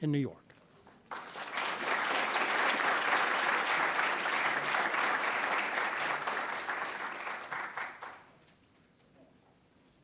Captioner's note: applause